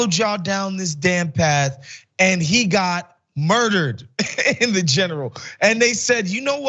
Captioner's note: laugh